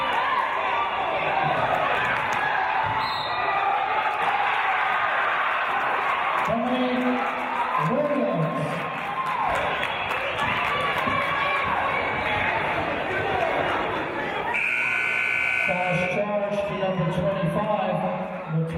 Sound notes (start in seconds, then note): 3.0 referee's whistle; 4.3 cheering and applause; 14.5 buzzer